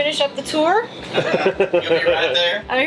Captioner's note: laughter